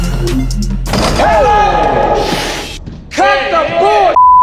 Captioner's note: dunk sound